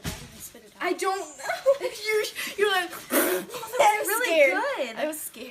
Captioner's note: spits